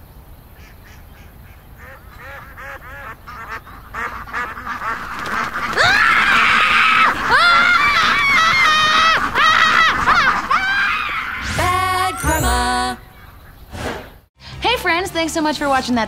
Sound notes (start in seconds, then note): 0.0 ducks quacking; 5.6 screams; 5.8 wings flapping